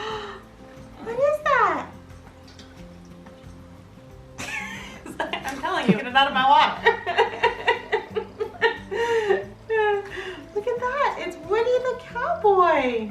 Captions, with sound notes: What is that? (laughs) I'm telling you, get it out of my water. Look at that, it's Woody the cowboy.